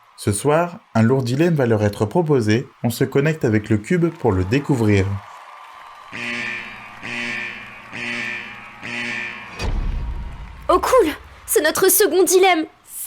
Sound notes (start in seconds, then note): 6.1 The dilemma alarm sounds